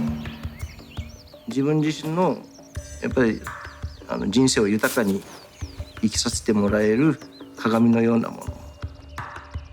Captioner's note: birds chirping; speaking japanese